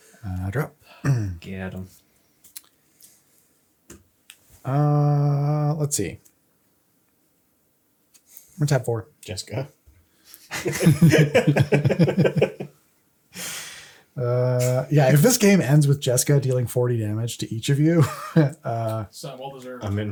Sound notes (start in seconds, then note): 13.3 laughs